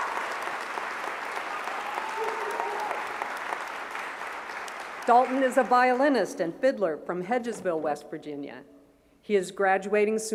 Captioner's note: applause